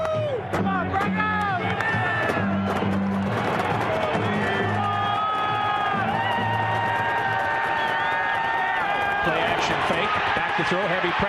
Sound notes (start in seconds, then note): 5.5 crowd cheering